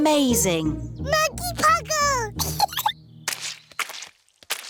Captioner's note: giggles